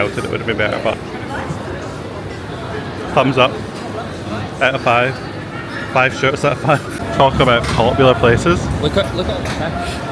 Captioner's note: laugh